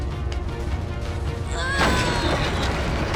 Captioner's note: grunting